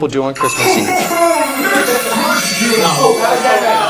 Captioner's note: buzzer buzzes; talking